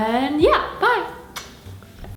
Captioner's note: kiss